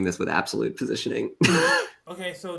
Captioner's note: laughs